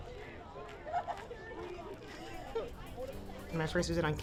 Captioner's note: women chattering